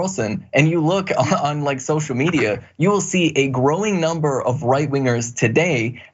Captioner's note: laugh